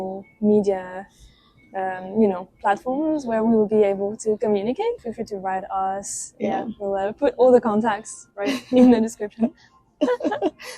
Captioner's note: laughs